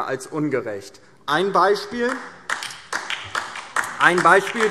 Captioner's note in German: Beifall DIE LINKE